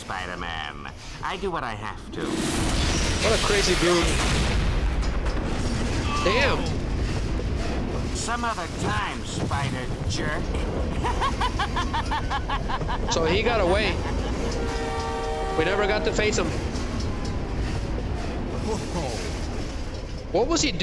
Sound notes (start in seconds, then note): 10.9 laughter